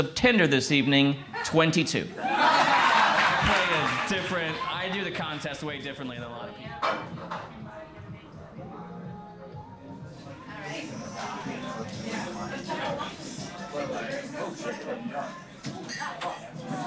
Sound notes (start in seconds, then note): 3.6 crowd laughs; 8.0 indistinct chatter